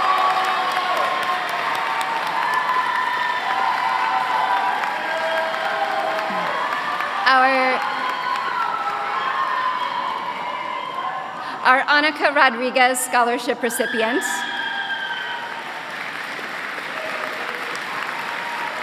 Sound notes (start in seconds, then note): 4.3 applause